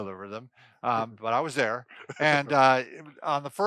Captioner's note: laughing